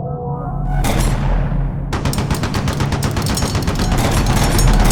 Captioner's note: guns fires